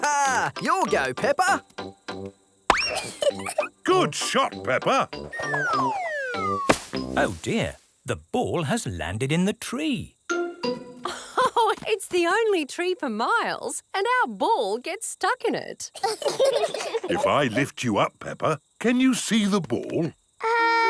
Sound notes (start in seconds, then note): 2.8 giggles; 11.1 laughs; 15.9 children laugh